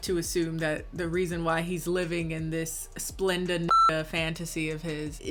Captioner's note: beep